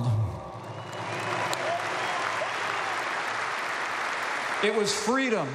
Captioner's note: applause